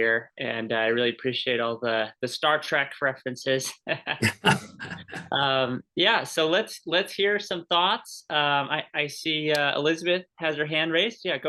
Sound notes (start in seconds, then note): 3.8 laughter